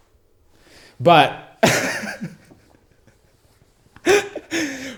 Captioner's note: laughs